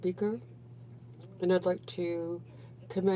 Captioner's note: speaking French